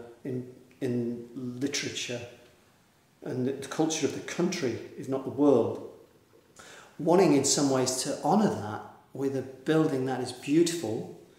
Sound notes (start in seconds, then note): none